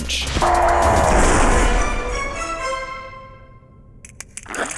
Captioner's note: loud squishing